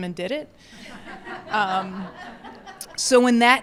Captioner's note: attendees laughing